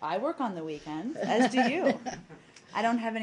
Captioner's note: laughter